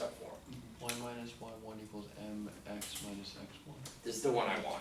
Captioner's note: voiceover